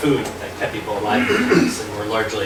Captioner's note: clearing throat